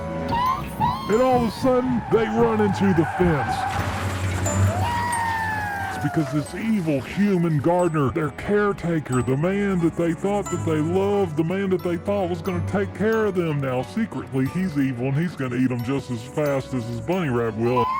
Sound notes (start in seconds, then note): 2.6 crash